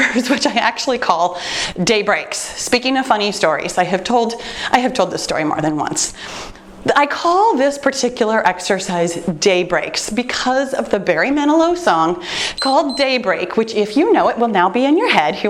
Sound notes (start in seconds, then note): 12.5 timer beeps